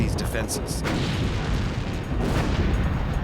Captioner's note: gunfire